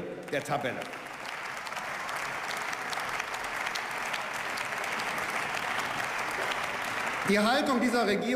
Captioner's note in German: Beifall